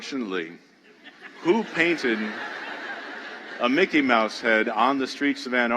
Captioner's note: laughter